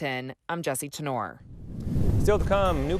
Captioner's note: air whooshing